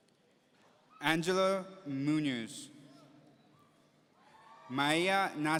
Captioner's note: audience cheering